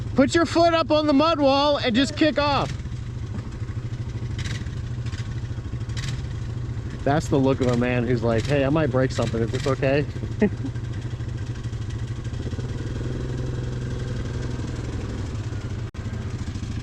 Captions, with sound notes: [shouting] Put your foot up on the mud wall And just kick off That's the look of a man who is like: "Hey I might break something, is this okay?" [laughs]